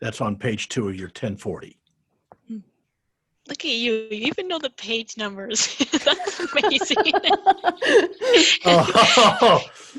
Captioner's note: all laugh